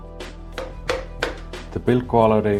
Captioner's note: hollow, plastic knocking!